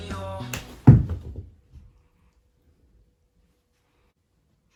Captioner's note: smack